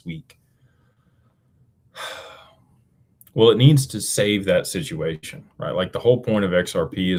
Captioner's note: sighs and gasps